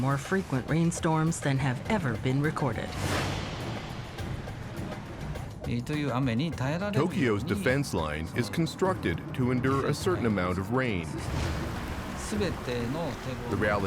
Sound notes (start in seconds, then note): 7.0 speaking Japanese